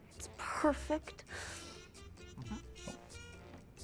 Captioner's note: norman, quietly